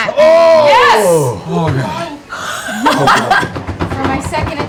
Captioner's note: cheering